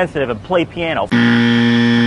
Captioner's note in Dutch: Buzzer geluid